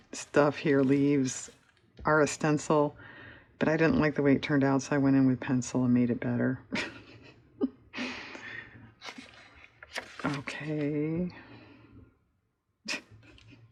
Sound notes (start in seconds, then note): 9.6 laughs